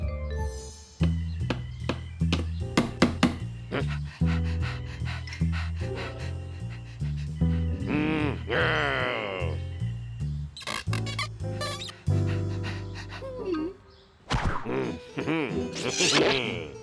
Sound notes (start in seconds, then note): 0.1 hammer thudding; 3.6 panting; 3.7 grunts; 7.0 growls; 11.7 panting; 13.1 grunting; 14.3 laughs